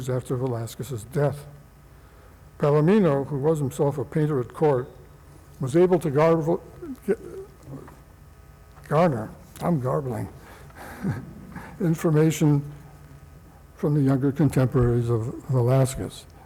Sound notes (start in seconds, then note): 10.7 laughs